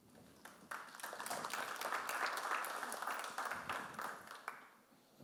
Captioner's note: audience applauds